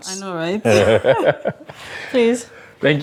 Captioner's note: laughing